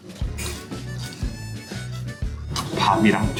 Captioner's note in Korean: 와그작와그작